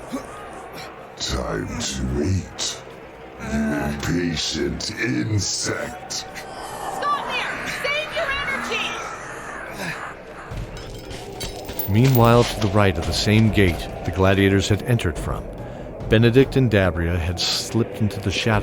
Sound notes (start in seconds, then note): 5.5 groans and struggles while pinned